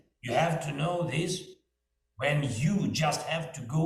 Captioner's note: none